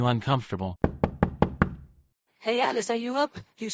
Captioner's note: door knocking